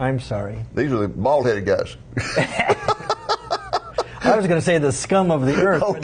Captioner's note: laughing